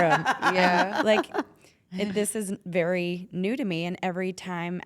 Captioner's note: laugh